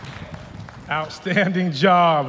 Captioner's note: applause